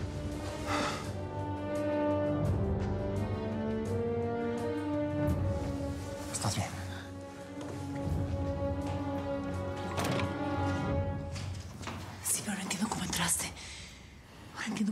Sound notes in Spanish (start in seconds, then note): 9.7 ruido al cerrar